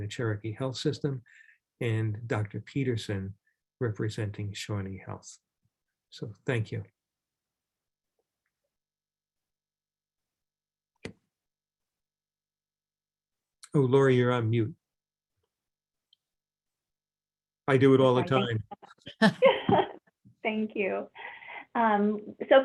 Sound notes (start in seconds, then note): 19.0 laughter